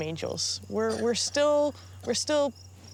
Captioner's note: kid coughing